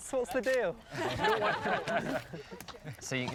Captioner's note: laughing